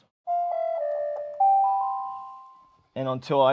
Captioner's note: high-pitched sound